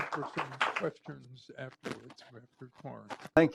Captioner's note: applause